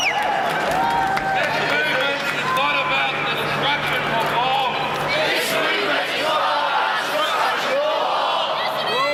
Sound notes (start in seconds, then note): 5.1 crowd repeats